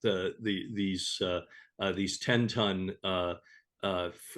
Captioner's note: stammering